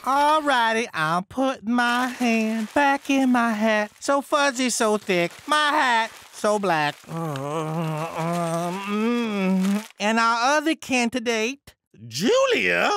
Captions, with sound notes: - Alright, I'm putting my hand back in my hat. So fuzzy, so thick. My hat, so black. (pleasurably moaning) And our other candidate, Julia?